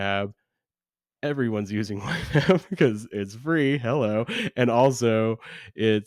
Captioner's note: laughs